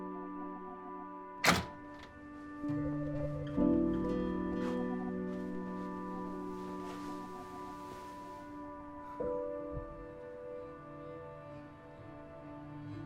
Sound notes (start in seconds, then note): 1.4 door rattling; 2.9 expressive piano over uneasy electronic music